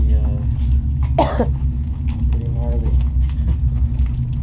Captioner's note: Moli coughs